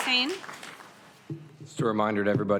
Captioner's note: applause